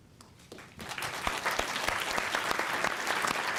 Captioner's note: applause